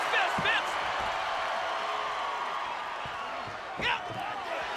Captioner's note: audience cheers